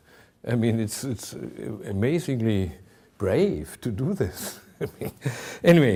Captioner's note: chuckling